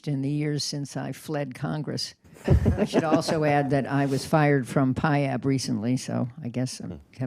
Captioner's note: laughter